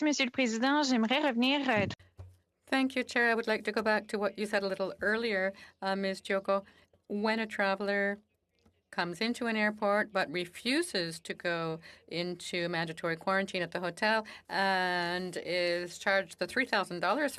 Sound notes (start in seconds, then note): 5.7 speaking French